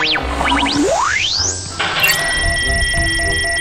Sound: beeping

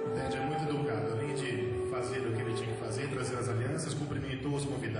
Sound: speaking

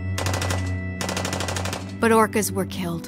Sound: somber music; gunshots firing

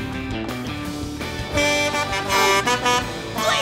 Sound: horn honking

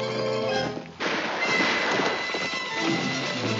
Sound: gunfire

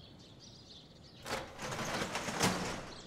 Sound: shutter opens

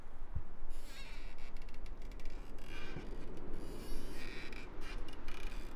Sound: light heartbeat thumping; chandelier creaking

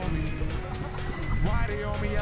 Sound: laughs

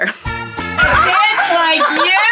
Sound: people laughing

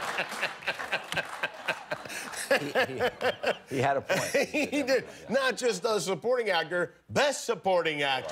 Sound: laughter

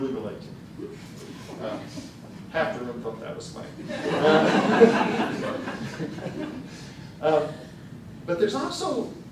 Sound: laughter

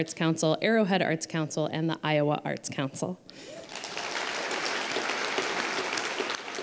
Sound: applause

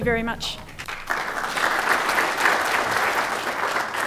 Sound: applause

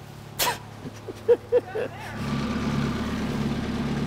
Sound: laughs

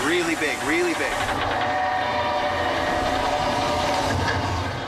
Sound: growls

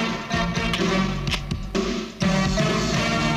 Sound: camera clicks

